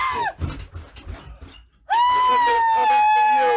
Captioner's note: both screaming